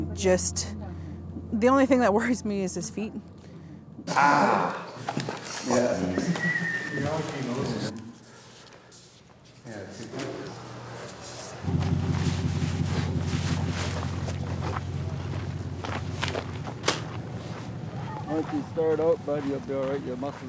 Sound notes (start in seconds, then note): 6.0 whistles; 12.2 truck engine idly rumbling; 12.9 footsteps crunching pavement